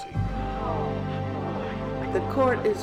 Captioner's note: crowd gasps